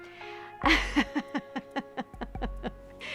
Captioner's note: laughs